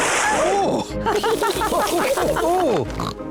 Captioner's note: all chuckle